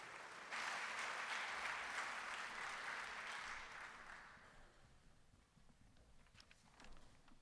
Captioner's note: applause